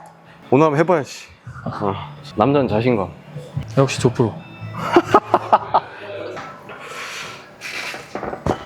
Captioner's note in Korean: 웃음